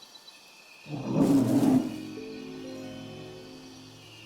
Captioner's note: growl